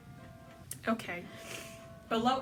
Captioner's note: inhales